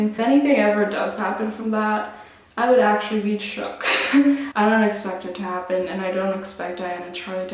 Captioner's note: laughs